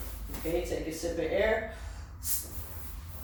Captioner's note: exhales